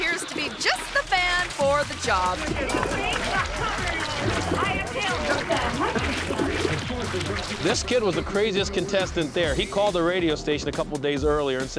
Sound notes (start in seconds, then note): 1.6 people chattering indistinctly; 5.9 manure squishing